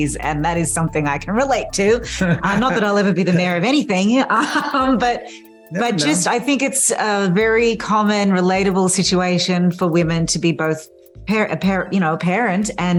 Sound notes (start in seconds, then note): 2.1 laughs